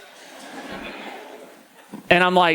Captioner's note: audience laughing